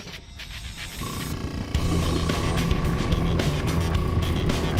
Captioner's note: air compressor